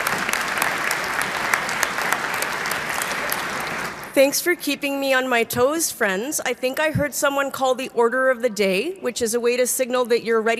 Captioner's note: applause